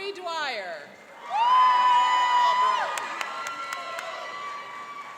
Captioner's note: cheering and applauding